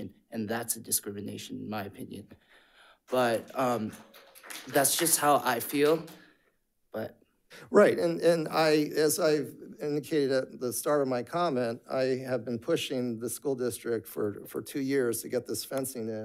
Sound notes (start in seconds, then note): 3.1 audience applauds